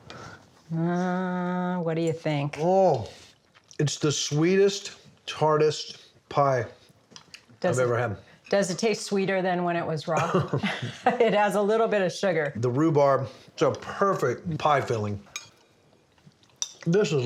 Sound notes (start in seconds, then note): 10.2 laughs